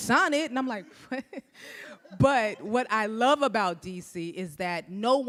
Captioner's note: laughs